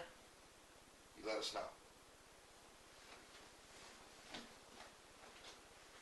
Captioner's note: footsteps